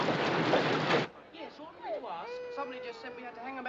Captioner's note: Bebê chorando